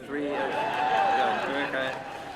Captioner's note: whooping